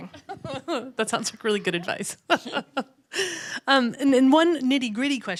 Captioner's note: laughs